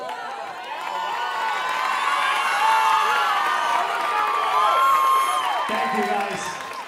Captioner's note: audience cheering and applauding